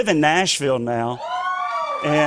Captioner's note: cheers